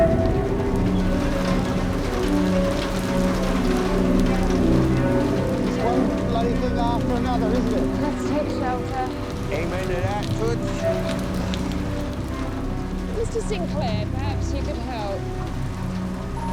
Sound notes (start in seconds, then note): 0.8 eerie music; 0.8 rain pattering; 11.2 Jane sighs